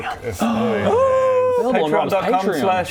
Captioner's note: excited gasp